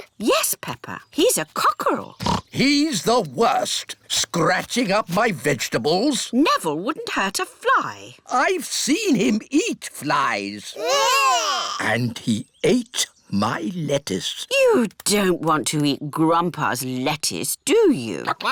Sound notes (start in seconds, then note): 2.2 oinks